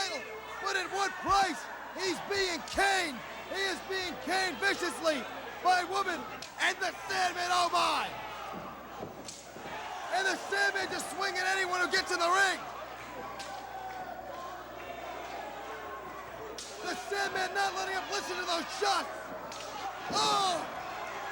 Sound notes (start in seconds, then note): 13.4 crowd chatter; 17.6 crowd chatter